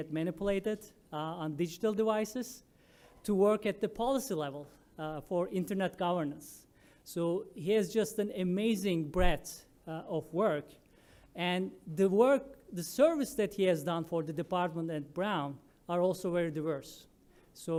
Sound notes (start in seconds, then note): none